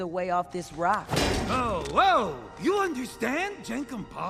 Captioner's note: klunk